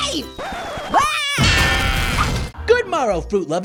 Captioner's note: screams